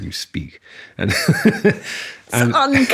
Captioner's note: laughing